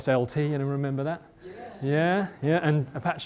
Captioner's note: voiceover